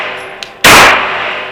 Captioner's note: pew